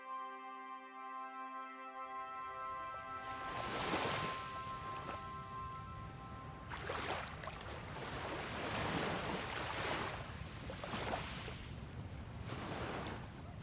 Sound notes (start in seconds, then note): 3.2 ocean waves lapping